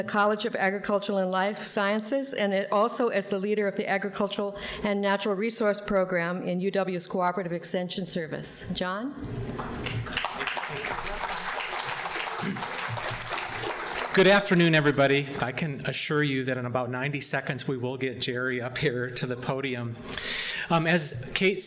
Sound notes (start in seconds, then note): 9.5 audience applauding